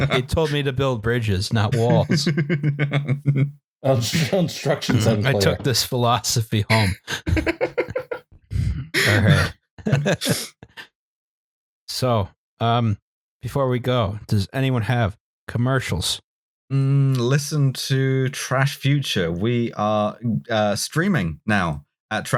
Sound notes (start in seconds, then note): 1.7 chuckles; 6.7 laughs